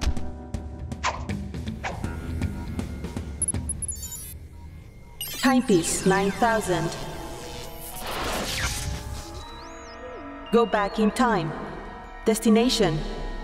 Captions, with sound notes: (beeps) (robot voice) HYPESE 9000. (static noise) (odd robot music) GO BACK IN TIME. DESTINATION...